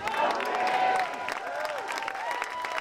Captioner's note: audience applauding